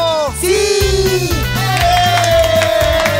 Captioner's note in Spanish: Aplausos